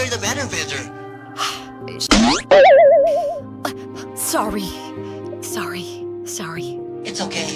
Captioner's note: sigh